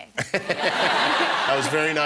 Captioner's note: laughter